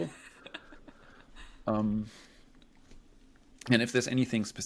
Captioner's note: laughs